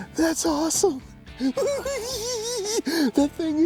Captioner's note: laughs